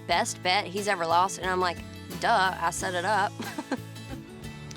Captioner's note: laughs